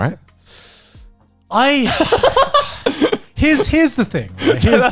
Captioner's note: laughs